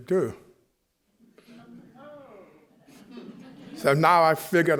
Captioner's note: chuckling